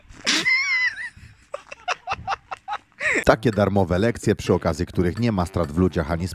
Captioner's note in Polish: śmiech